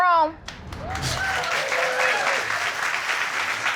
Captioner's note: audience applauding